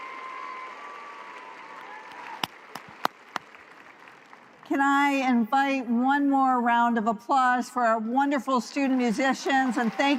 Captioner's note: applause